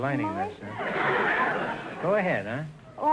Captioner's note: audience laughter